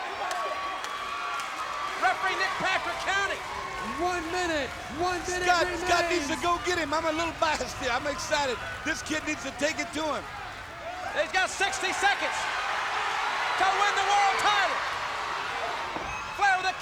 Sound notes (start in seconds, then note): 12.5 audience cheering